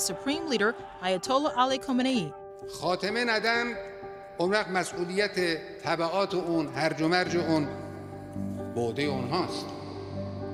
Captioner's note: speaking non-English language